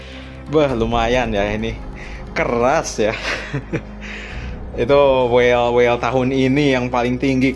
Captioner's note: laughs